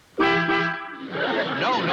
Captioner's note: horn honks twice